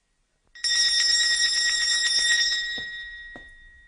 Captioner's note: bell ringing